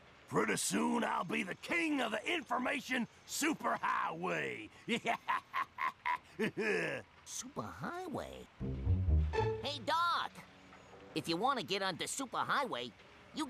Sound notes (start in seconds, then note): 4.8 laughing